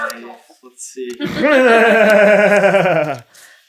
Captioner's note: giggling